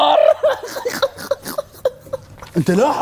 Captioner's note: snort laughing